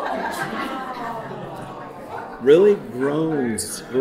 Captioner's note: audience chuckling